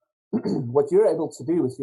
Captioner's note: clears throat